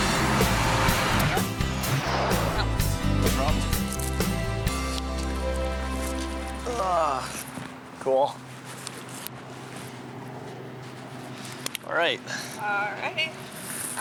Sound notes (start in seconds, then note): 0.0 energetic music; 3.3 chattering